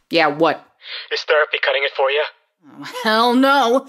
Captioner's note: on phone